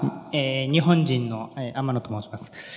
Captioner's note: speaking japanese